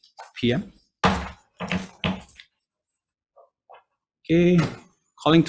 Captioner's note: gavel bangs